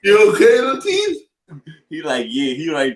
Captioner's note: chuckles